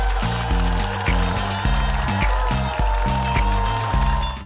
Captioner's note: audience cheering; upbeat music